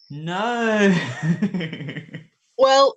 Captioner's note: laughing